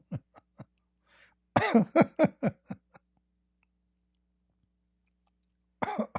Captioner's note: Ketawa